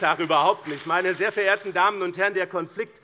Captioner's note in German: Beifall BÜNDNIS 90/DIE GRÜNEN und CDU